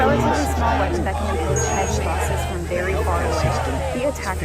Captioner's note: intense talking continues